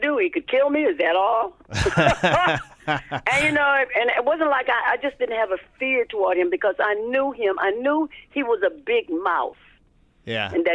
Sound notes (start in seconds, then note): 1.7 laughter